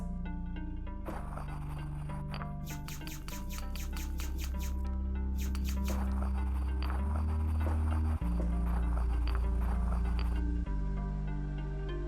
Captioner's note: making sounds with a mouth and objects